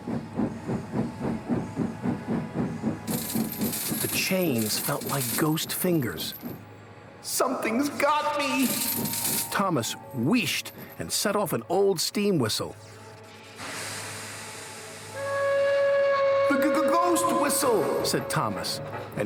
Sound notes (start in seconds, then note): 3.0 rattling; 11.6 hissing; 15.2 whistle blows